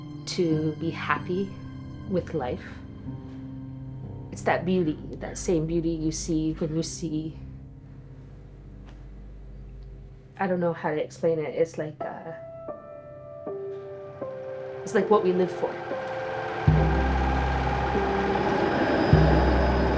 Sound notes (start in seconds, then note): 16.1 sewing machine whirring; 18.8 sound of passing streetcar